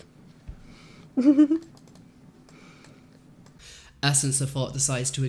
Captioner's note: laughs again